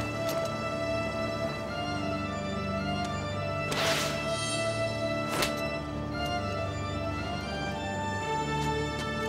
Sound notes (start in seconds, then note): 4.3 chimes